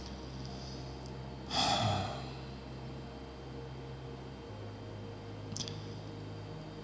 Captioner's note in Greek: αναστενάζει